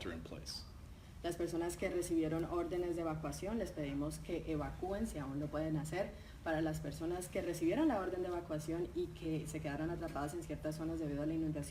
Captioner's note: speaking in Spanish